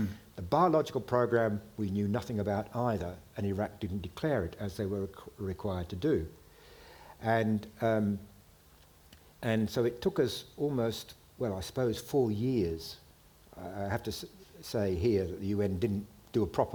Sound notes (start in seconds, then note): none